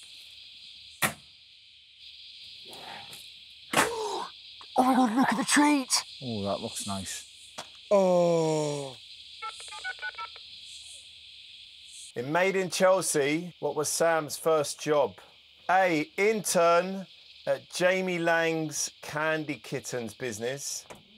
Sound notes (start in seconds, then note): 3.8 gasps; 9.4 dials the telephone